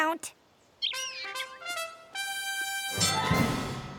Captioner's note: birds chirping; bell dings